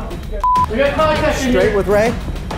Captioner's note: beep